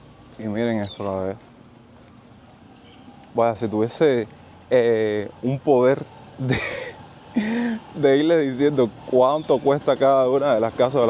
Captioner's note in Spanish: risas